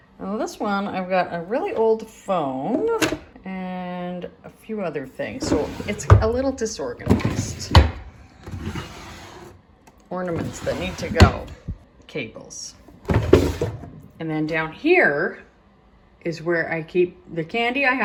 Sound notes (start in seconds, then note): 7.7 drawer scraping shut; 12.9 drawer scraping shut